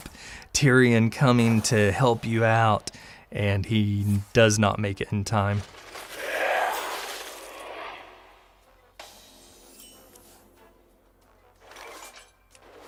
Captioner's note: haha